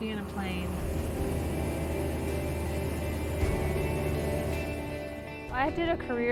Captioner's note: engine roaring